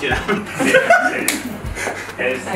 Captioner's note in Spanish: risas